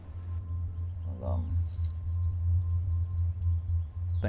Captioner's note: keys jangling